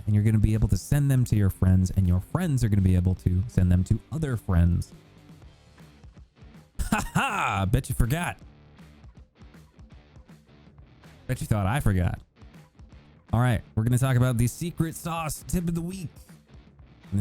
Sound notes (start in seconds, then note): 6.8 laughs